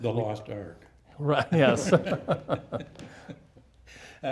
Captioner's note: laughing